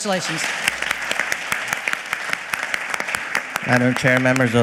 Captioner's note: audience clapping